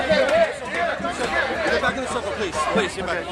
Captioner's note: voiceover